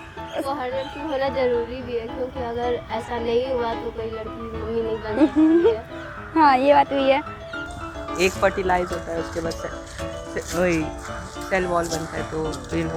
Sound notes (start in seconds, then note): 5.0 laughs